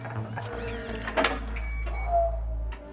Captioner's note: Billy Ray chuckles; gears whir and clack; Billy Ray whistles